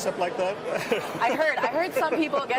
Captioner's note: laughs